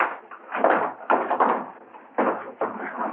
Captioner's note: scuffling